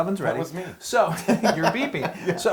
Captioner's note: laugh